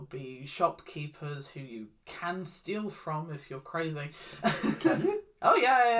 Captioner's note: awkward laugh